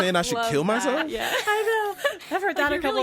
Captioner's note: laughs